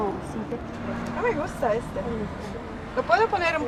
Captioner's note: in Spanish